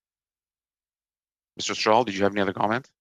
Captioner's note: speaking French